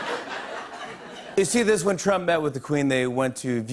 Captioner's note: laughter; normal voice